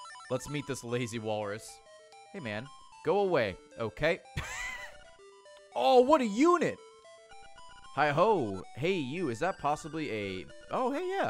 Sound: laughs

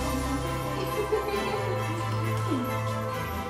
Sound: laughter

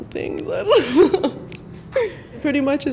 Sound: chuckling

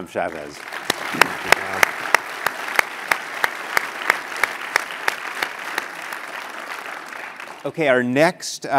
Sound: applause

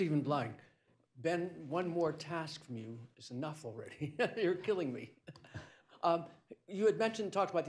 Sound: laughs

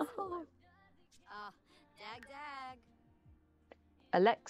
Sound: sims chatter

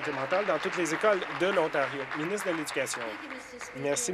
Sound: applause

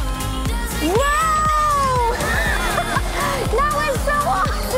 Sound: laughs; laughs

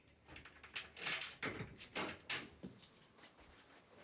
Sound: door hinges squeaking

